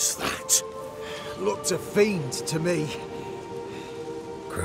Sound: out of breath

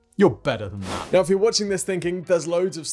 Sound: screenwipe whooshes

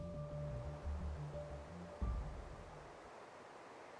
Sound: wind whooshing

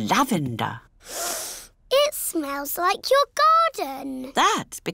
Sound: sniffs

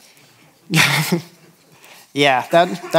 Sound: laughs

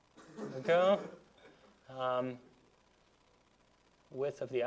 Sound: students laughing

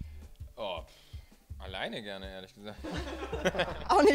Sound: laughing

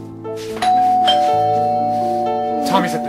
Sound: doorbell ringing

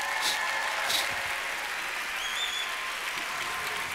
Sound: applause

